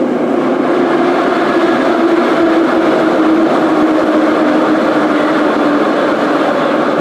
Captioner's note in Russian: торможение - прибытие на станцию